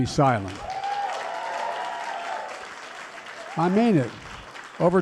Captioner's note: applause